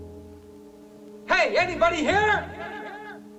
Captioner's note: echoing